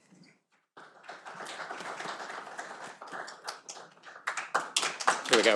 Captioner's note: audience applauding